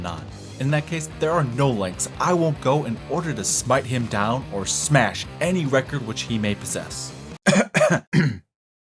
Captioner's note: cough